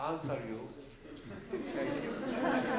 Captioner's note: laughs